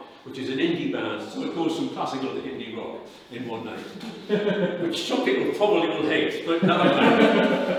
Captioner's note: laughter